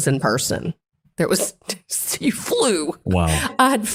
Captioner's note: laugh